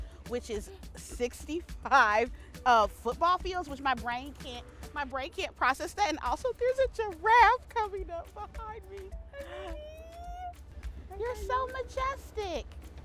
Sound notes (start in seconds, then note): 9.4 squeals